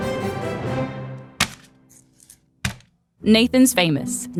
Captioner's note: lively classical music; packages thunks